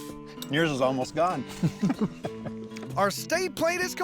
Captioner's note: chuckles